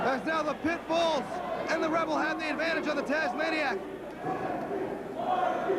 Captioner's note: crowd chattering